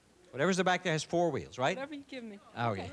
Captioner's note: laughter